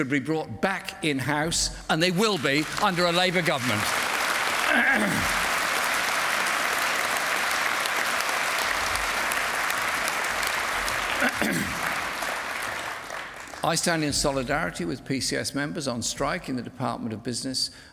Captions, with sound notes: brought back in-house and they will be under a Labour government *Applause* I stand in solidarity with PCS members on strike in the Department of Business